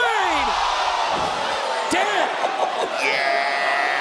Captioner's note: audience cheering